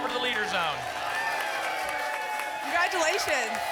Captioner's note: applause and cheering